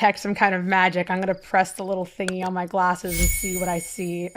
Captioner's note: button press followed by a magical chime